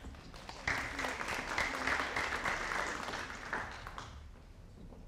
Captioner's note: audience applauding